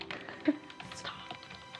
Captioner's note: keyboard keys clacking